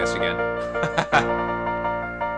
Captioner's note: laughs